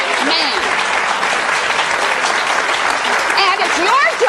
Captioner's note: audience applauding